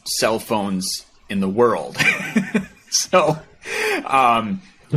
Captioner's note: laughing